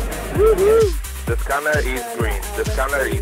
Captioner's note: cheering; voiceover